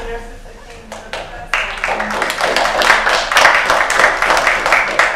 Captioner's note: applause